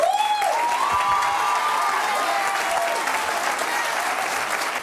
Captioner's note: audience applauds